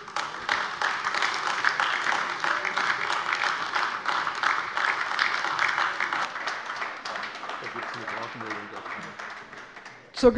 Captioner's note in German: Beifall AfD